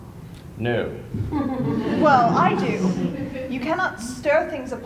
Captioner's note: laughter